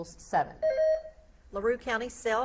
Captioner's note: beep buzzing